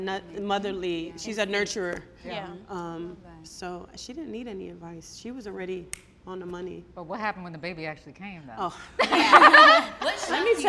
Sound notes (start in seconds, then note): 5.9 snaps fingers; 8.9 all laughing